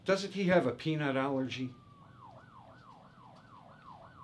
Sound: ambulance siren

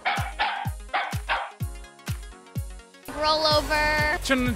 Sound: dog barking

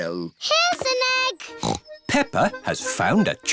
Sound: snorts

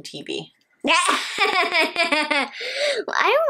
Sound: laughing

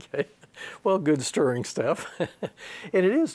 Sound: he laughs; laughs

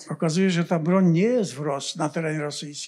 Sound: foreign language

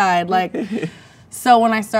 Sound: man chuckles

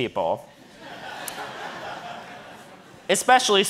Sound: audience laughing

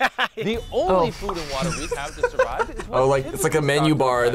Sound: laughs

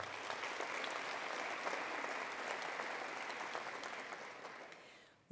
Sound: attendees applauding

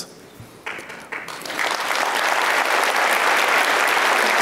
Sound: applauds

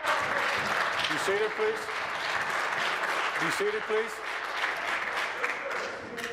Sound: applause

